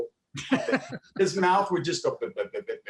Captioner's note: laughing